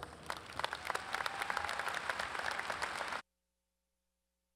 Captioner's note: audience applauds